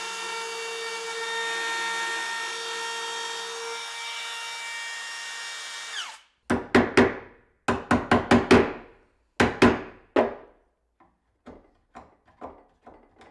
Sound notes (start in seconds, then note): 7.7 hammer tapping